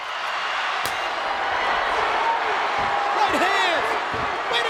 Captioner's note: audience cheering